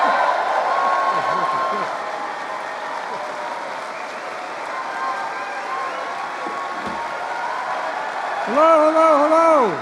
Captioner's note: applause